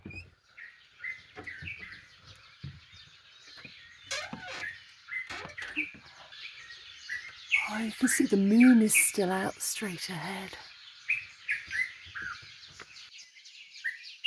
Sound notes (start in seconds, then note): 0.8 loud birdsong; 10.1 birdsong, crickets and frogs